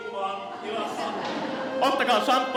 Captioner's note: laughter